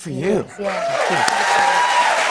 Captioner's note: cheers and applause